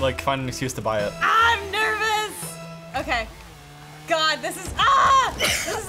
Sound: yells

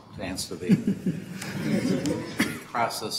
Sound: everyone chuckling

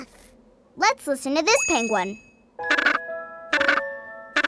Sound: squawking

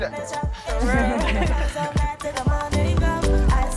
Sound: laughing

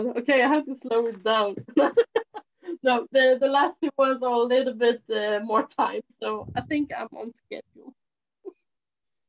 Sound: laughs

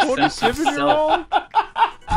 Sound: laughs

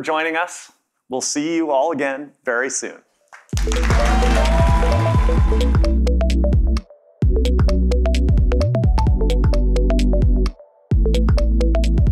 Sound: cheers and Applause

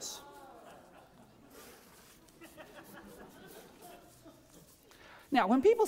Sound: laughter

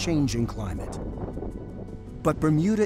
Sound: wind howling

